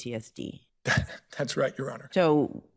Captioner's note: laughs